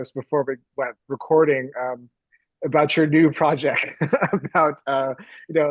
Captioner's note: laughs